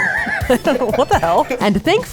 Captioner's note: laughs